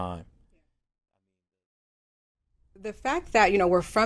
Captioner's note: silent